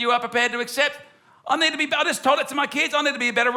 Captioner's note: none